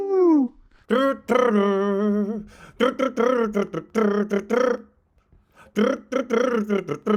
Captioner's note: humming